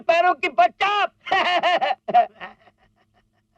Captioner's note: laughs